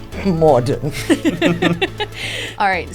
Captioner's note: hosts laughing